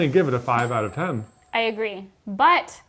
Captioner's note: bell dinging